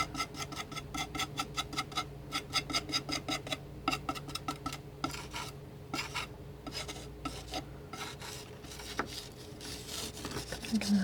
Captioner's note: scratching